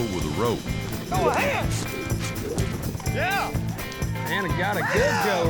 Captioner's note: hoofbeats, shouting